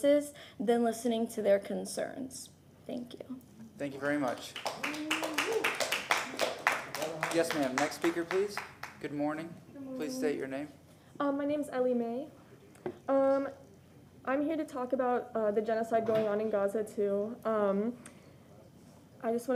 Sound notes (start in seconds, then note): 8.3 applause